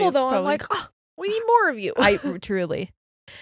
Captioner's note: chuckles